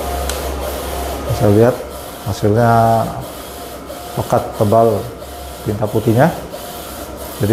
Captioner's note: printer machine noise